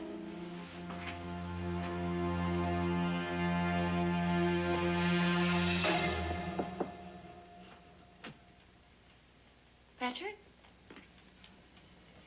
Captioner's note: knock on door